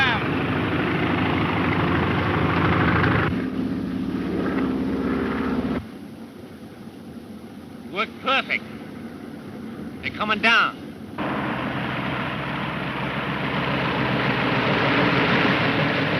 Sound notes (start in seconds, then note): 2.1 engine droning; 11.7 engine droning